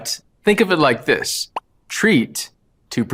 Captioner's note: bubble pops